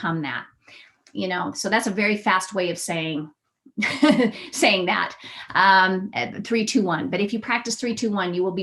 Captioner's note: laughter